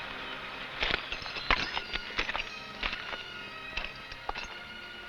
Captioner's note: spurs rattling